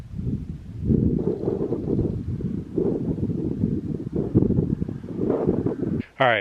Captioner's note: wind blowing